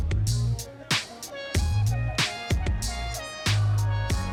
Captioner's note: laid-back techno music; students chatter